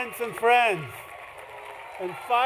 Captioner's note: applause